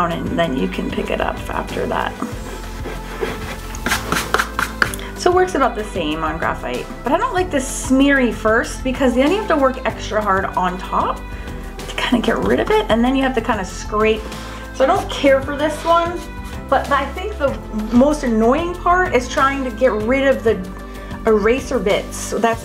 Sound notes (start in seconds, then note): 1.8 eraser rubbing; 3.6 fingers taps